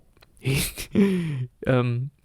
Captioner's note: snigger